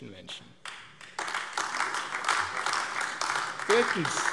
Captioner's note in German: Beifall AfD